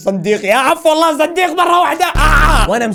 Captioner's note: shouts